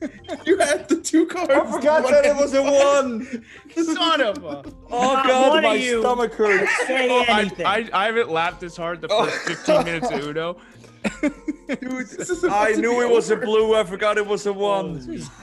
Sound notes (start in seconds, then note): 9.1 laugh